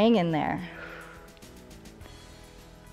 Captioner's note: exhales